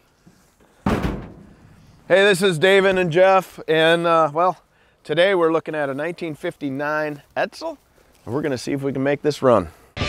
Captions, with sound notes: (vehicle doors bang) - Hey, this is Davin and Jeff and well, today we're looking at a 1959 Edsel, and we're gonna see if we can make this run.